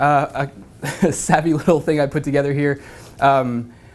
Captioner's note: laugh